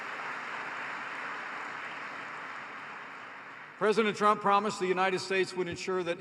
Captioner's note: applause